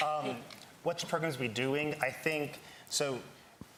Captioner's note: laughs